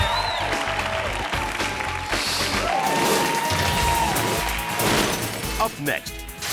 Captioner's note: audience cheering continues; upbeat music continues